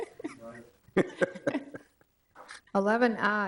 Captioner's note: speaks distantly; people chuckle